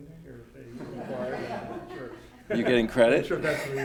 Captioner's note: audience laughs